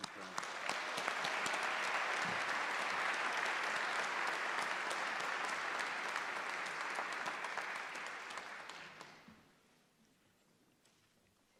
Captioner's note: applause